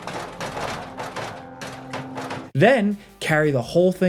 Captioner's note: loud thump; loud thumping; upbeat ambient music